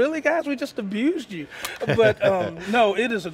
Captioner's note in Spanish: se ríe